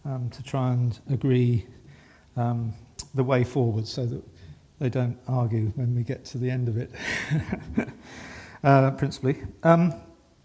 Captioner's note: laughing